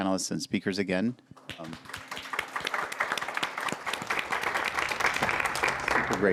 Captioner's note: applause